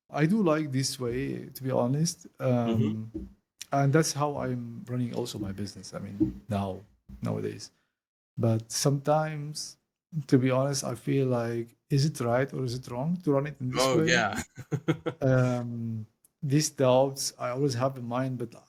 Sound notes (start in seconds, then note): 13.7 laugh